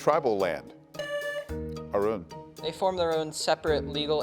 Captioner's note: tone sounds